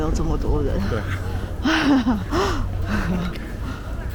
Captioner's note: laughs